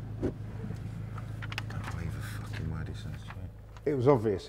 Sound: whispering

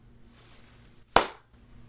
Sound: clap

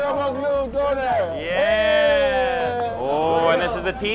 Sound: they cheer

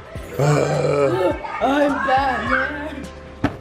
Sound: both groaning

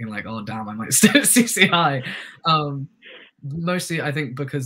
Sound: chuckles

